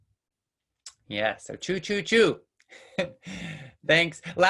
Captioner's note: laughs